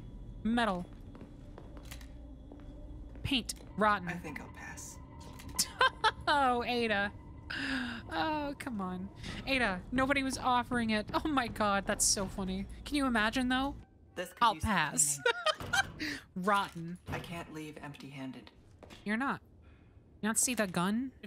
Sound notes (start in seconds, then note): 5.6 laugh; 15.0 laughter